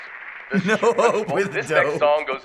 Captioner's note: laughing